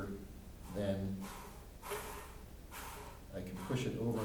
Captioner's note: block sliding